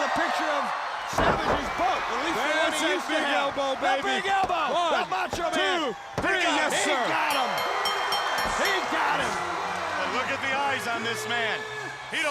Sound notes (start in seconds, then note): 9.4 bell ringing; 10.3 crowd cheering